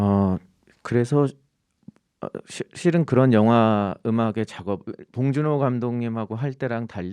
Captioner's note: speaking in Korean